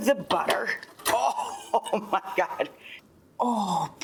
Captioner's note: chuckles